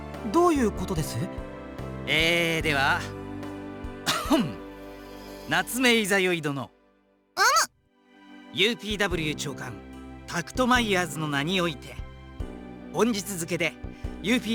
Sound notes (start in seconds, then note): 4.0 clears throat